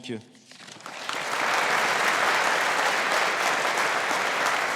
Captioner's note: audience applauding